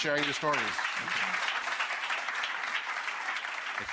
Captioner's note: applause